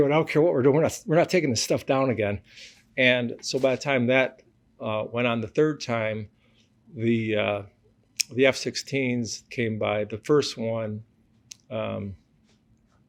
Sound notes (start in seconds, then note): none